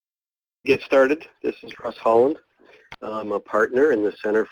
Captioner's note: voiceover